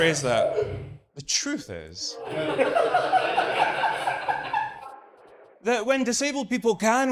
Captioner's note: audience laughs